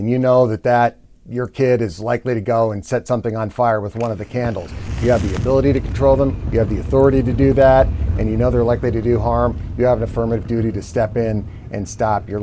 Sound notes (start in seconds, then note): 3.9 fire igniting